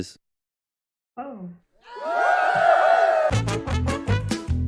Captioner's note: cheering